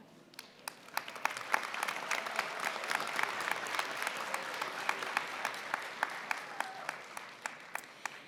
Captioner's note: applause